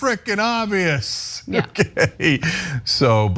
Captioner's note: laugh